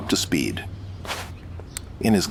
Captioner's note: shirt fabric rustles as item is retrieved from moob